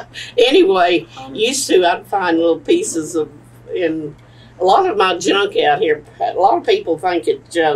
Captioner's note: laughs